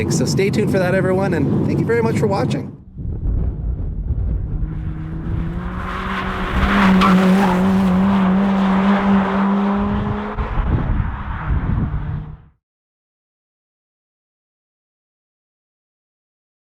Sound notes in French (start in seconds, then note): 5.0 Son de moteur; 5.0 crissement de pneus